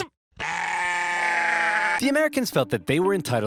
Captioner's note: baaing